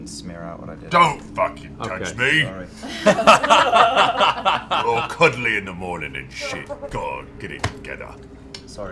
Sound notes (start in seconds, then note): 2.8 laughter